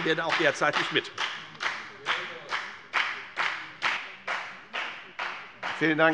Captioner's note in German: Beifall bei der FDP